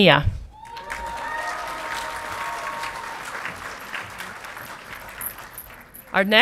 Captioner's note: audience clapping and cheering